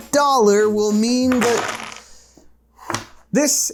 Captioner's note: wooden blocks clunking